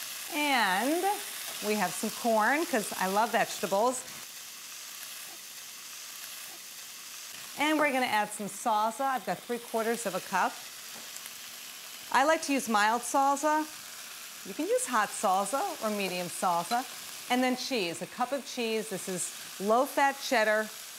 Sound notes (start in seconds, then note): 4.5 sizzling continues